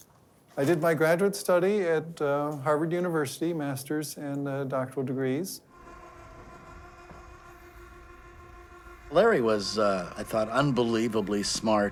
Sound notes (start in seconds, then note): 5.6 roof buzzing